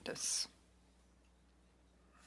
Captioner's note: speaking French